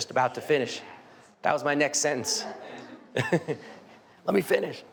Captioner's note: laughs